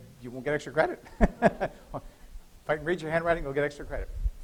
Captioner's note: laughter